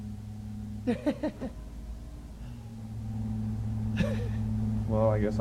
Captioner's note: chuckling